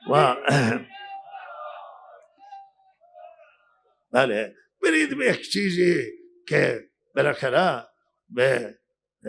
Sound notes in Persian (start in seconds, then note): 0.4 گلویش را صاف می‌کند; 0.7 گریان